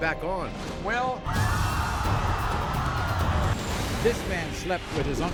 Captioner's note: crowd gasping